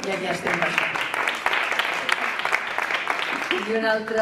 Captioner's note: Aplaudiments